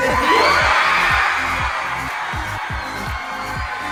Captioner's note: audience cheers